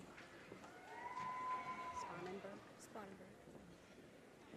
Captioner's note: audience applause and cheers